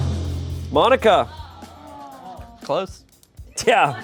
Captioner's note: audience exclaims